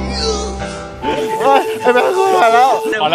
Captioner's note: sighs